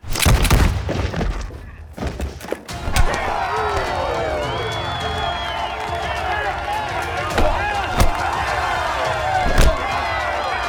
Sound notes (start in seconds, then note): 0.1 gunfire echoing; 2.7 crowd cheering